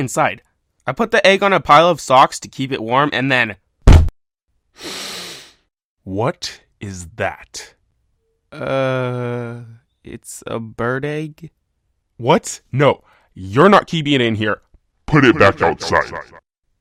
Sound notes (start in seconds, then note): 3.9 door slams open